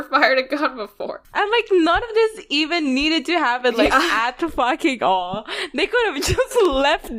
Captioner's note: laughs